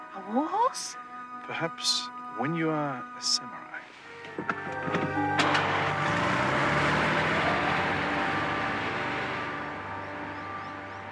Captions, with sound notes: A war horse? - Perhaps when you are a samurai. (car engine roars)